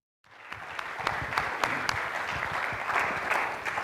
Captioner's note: audience applauds